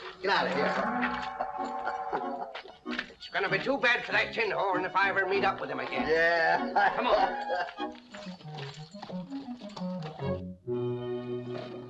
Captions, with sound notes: Get out of here. It's going to be too bad for that tinhorn if I ever meet up with him again. Yeah. [ LAUGHTER ]